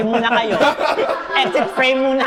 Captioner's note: laughs